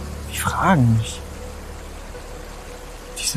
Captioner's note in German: Bachplätschern, Windgeräusch